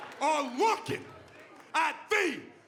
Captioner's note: cheers & applause